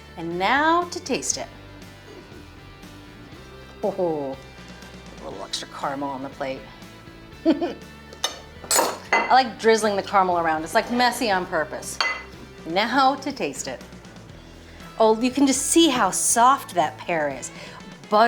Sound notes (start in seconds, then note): 1.8 upbeat music; 7.4 chuckles contentedly